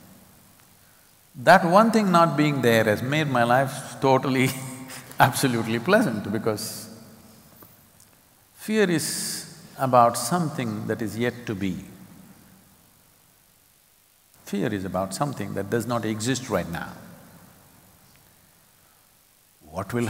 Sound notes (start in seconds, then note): 4.5 laughs